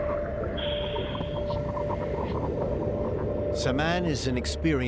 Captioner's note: water burbling, breathing through hose